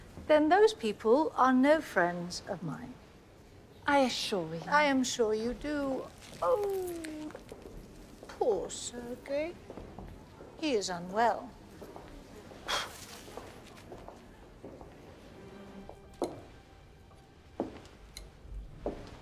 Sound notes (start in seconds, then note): 5.6 butterfly crunches; 12.7 Joanna exhales sharply; 15.8 gentle music